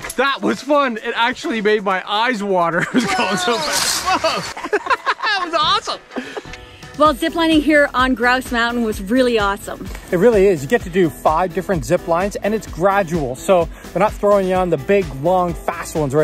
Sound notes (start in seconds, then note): 2.7 both laughing